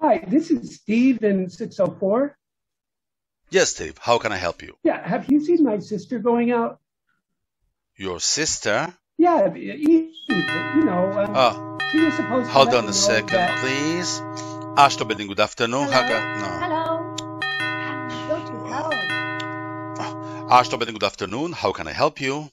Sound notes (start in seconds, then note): 10.3 phone rings; 16.2 ring continues